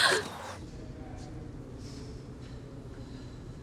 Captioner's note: sighs